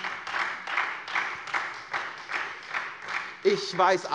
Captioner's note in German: Beifall SPD und Freie Demokraten